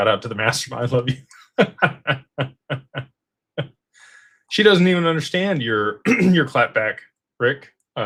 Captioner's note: laughter; clears throat